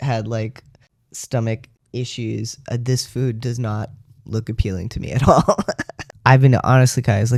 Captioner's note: laugh